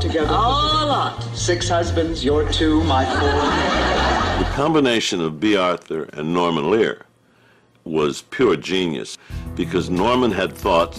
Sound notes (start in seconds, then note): 2.5 laughs